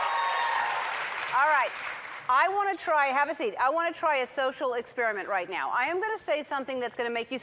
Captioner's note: cheers and applause